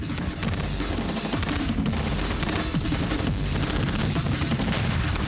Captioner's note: gunfire